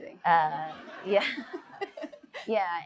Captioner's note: audience laughs